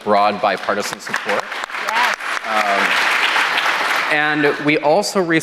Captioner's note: applause